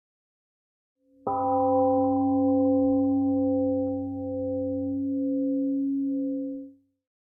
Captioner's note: temple gong rings and fades